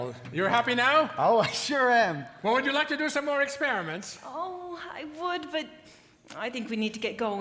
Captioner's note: none